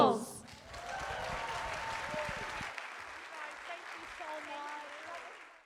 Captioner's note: applause